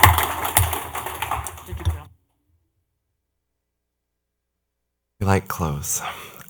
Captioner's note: clapping